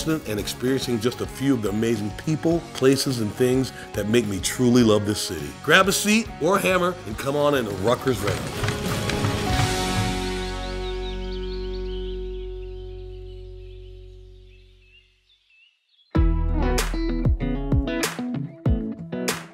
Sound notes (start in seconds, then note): 9.3 birds chirping; 9.3 soft upbeat music; 16.2 upbeat music